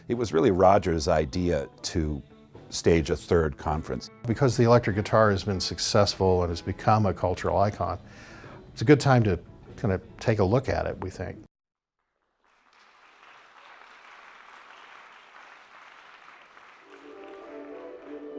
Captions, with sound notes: it was really Roger's idea to stage a third conference. - Because the electric has been successful and has become a cultural icon, it's a good time to kinda take a look at it we think. (applause)